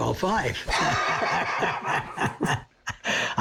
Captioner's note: both laugh